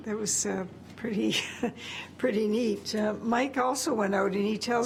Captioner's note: laughs